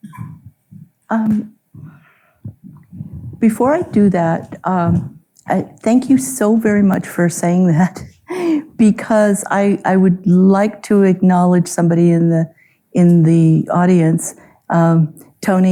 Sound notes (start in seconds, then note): 8.2 chuckles